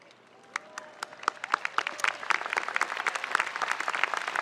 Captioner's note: spectators applauding